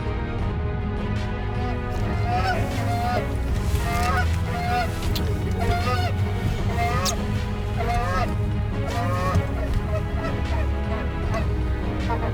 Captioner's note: goose calls